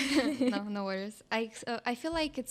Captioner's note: laughs